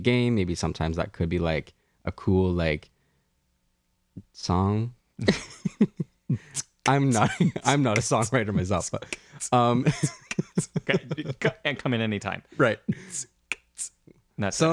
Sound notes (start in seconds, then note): 5.2 laugh; 10.1 beat boxes